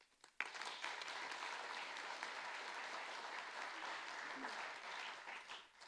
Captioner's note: audience applauding